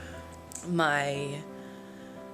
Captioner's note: sighs